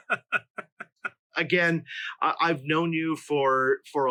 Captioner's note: laughs